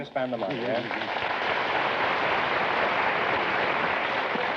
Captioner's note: applause